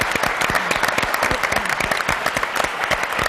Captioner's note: applause